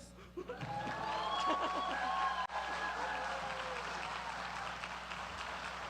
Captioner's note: applause